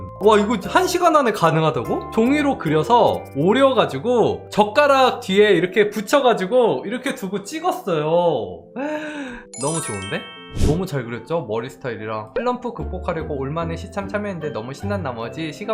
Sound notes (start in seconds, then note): 8.8 gasps